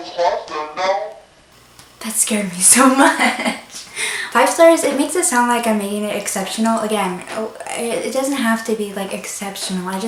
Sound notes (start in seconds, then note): 2.8 laughs